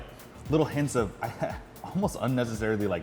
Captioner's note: laughs